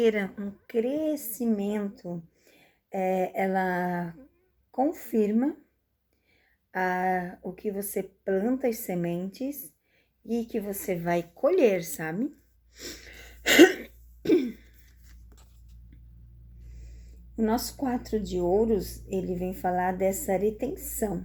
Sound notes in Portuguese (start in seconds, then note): 13.4 tosse; 14.2 limpando a garganta